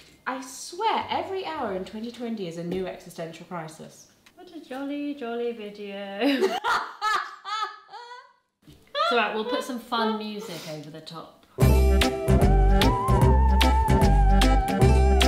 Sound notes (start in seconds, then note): 6.2 laughing; 11.6 upbeat spooky music